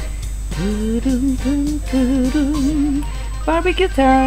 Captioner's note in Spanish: tararea el tema musical del juego